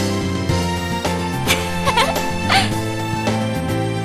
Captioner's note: laughs